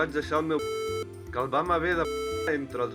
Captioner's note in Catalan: piiiip